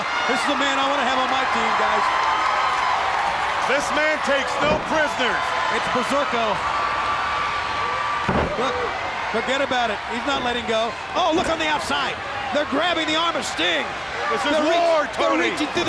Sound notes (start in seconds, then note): 2.3 crowd cheering; 7.6 crowd screaming; 8.2 body slamming